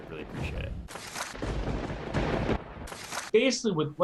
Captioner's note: lightning strikes